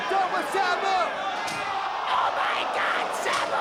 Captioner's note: spectators exclaiming